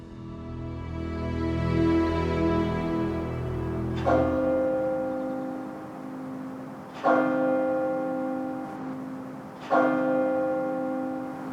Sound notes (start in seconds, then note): 0.1 gentle music; 3.0 bell tolling